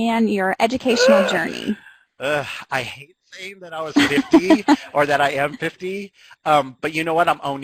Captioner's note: sighs